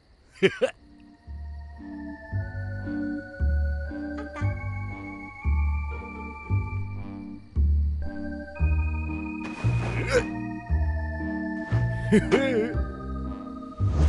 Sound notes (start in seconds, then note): 0.4 laughs; 9.9 grunts; 12.0 laughs